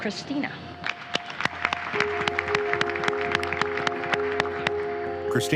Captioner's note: audience applauding